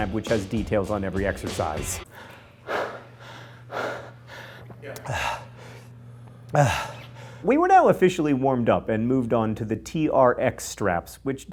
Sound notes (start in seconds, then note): 2.0 heavy breathing